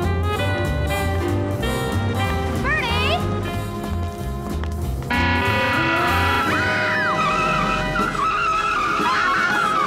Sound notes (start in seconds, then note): 5.1 car horn